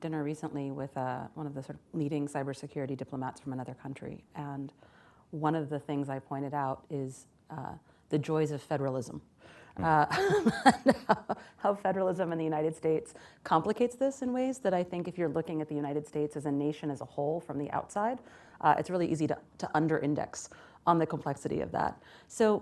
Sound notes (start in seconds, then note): 9.8 laughs